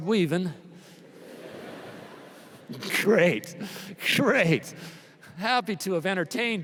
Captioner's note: laughter